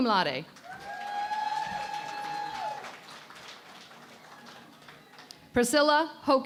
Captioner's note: cheering and Applause